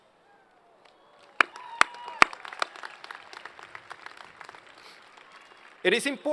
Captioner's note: applause